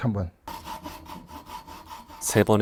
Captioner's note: sawing sound